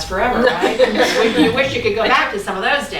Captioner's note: laughing